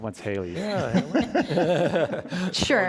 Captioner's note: panelists laughing